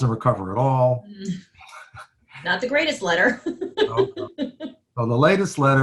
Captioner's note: laughs